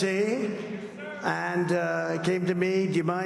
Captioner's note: crowd chanting "dana"